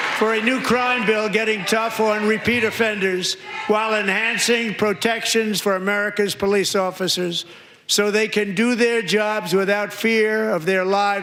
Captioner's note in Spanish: aplausos